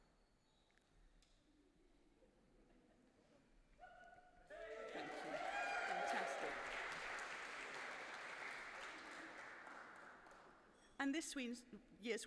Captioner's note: applause